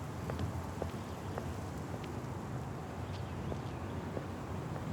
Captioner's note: footsteps tapping